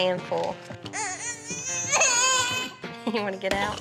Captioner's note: cries